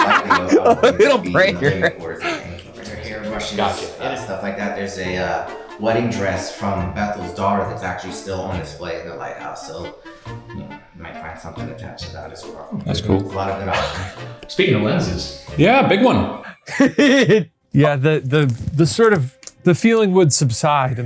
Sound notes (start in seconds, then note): 13.2 site rep speaking faintly; 13.7 chuckling; 16.5 laughing